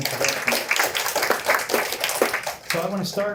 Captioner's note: applause